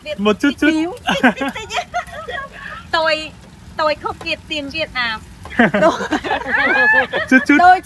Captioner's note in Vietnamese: tiếng cười